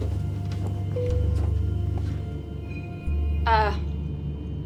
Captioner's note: announcement system beeping